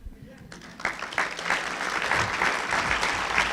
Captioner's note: applauding